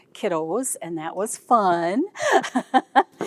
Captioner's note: laughs